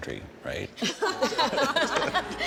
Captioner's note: laughs